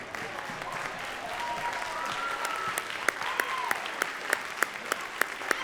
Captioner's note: audience cheering and clapping